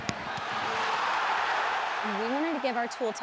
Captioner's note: cheering